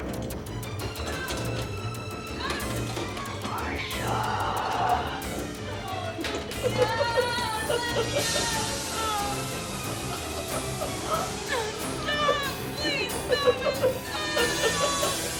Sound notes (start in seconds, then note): 6.3 cackling; 6.6 Marcia Wailing; 11.8 cackling Continues